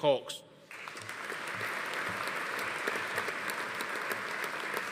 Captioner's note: audience applauding